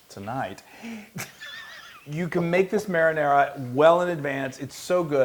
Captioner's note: laugh